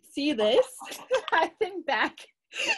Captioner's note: laughs